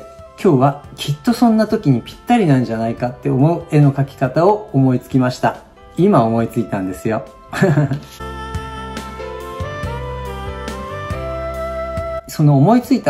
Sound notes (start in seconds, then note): 7.6 laughs